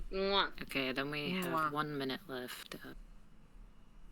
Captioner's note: kissing noise